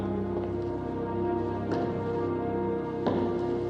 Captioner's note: footsteps continue